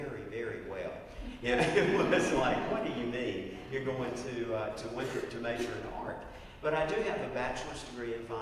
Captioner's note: laugh